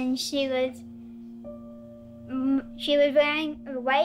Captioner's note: none